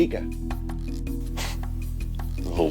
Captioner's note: scoffing